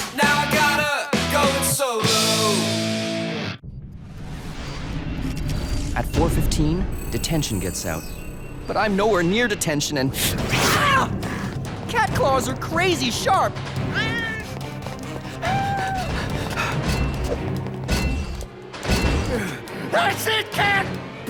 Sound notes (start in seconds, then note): 13.9 cat meows; 14.1 panting